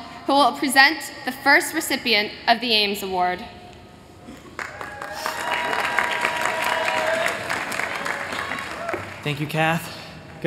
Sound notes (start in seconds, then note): 4.5 applause